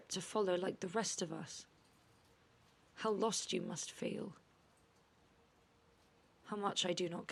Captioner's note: none